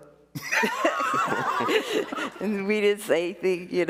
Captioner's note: all laughing